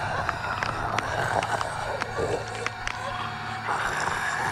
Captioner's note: bones cracking